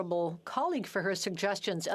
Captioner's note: speaking French